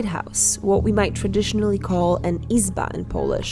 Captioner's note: foreign language